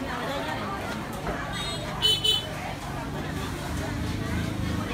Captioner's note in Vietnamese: Tiếng ồn ào trong chợ